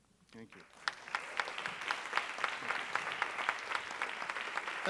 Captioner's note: audience applauding